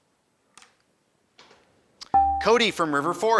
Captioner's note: buzzer dings